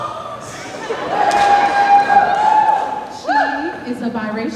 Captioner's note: cheers